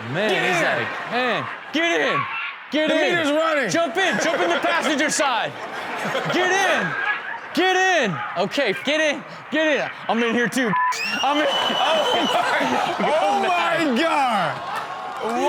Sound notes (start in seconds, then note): 2.8 audience laughs; 10.7 beep; 10.9 screaming; 11.0 audience groans